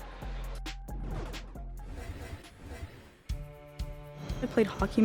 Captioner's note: scenes whooshing